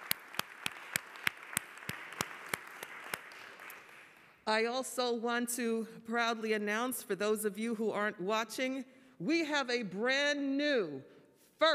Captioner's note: applause